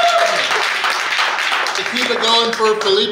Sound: clapping

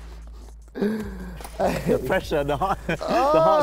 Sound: inhale; chuckles; laughter

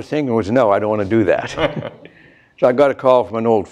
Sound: laughter

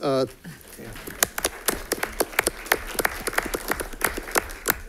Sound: audience applauding

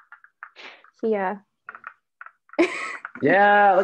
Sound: chuckles

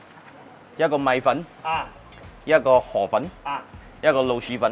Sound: speaking in foreign language

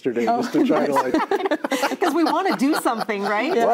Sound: everybody laughs

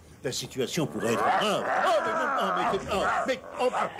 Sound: growling

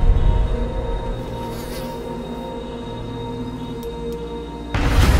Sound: fly buzzes; flashlight clicks on

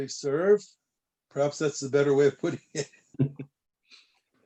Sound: laughter

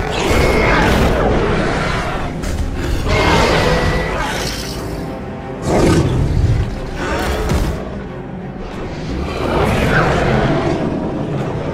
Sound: Scorpius Screeching and Roaring

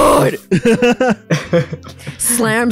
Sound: cackle

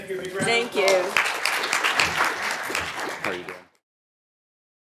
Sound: applause

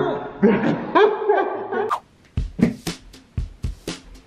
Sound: laughs

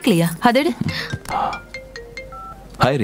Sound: phone rings

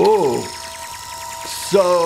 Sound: tinny zapping sounds

